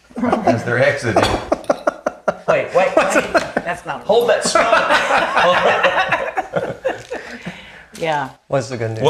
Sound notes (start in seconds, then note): 1.5 laughs; 5.7 laughing